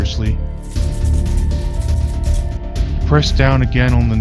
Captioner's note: spray can shaking